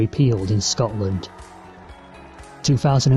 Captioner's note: crowd cheers